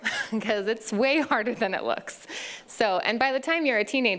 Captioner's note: laughs